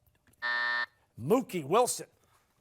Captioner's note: buzzer